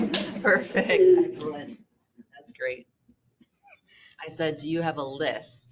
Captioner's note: laughter